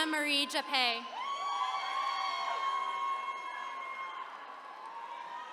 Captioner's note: attendees cheering